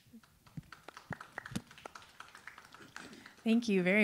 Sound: audience applauding

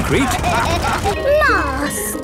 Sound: bell ringing

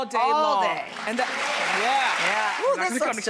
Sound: applauding

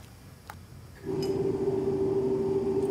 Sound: whirring

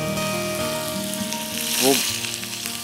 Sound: frying

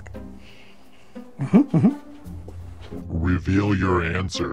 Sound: footsteps shuffling

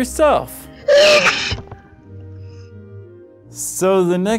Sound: sneezing sound

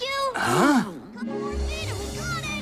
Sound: gasps

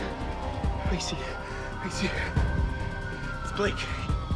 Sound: sirens wailing

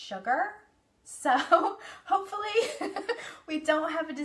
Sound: laughs

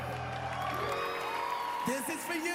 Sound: cheering, applause

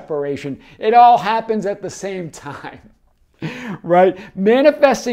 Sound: chuckles

